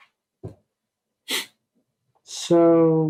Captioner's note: sniffs